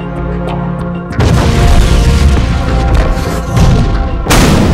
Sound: Planet Explosion

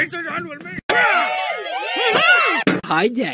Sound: party sounds in the background

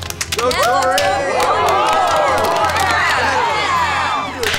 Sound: cheering

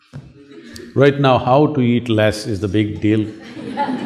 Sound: laughter

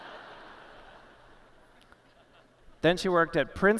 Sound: laughter

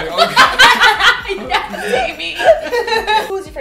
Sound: laughter

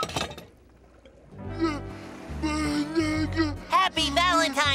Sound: moaning

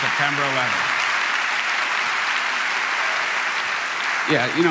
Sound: crowd applauding

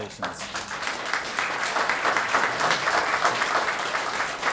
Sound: applause

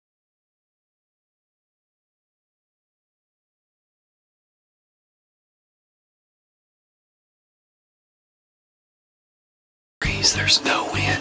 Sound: whispering

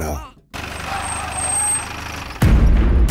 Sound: engine Stops

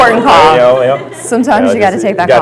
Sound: laughter

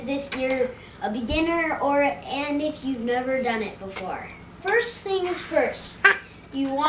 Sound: none

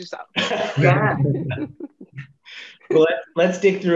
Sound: panelists laughing

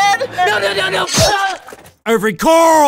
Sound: slicing noise

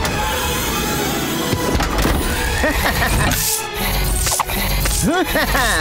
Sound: mechanical whirring

